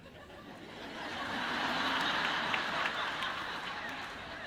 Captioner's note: audience laughs